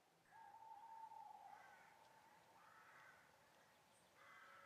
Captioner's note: owl hooting